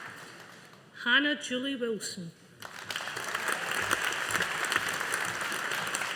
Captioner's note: audience applauding